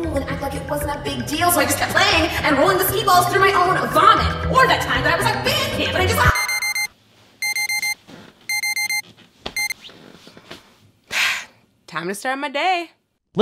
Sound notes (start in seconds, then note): 6.2 alarm beeping; 11.1 sighs